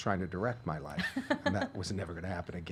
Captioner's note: laughing